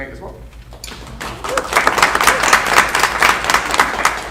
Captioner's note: audience clapping